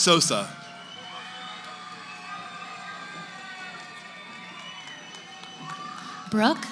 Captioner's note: cheering